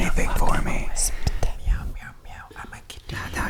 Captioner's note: gentle brushing